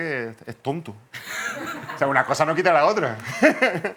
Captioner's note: laugh